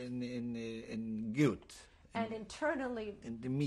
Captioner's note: speaking yiddish